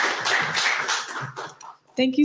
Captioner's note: applause